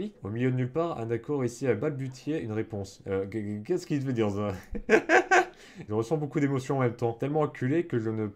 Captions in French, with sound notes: « Au milieu de nulle part, Hanako réussit à balbutier une réponse. » [Rires]